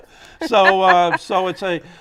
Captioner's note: laughter